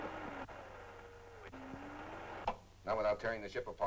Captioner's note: radio static